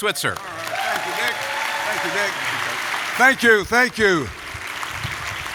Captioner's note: applause